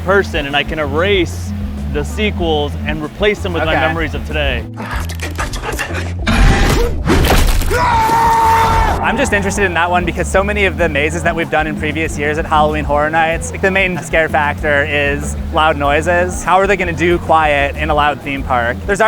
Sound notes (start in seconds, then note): 7.6 screams